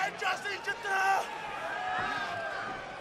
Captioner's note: crowd chatter